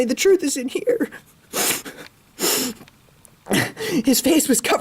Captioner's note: sobbing